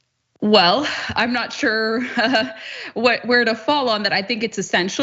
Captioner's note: laugh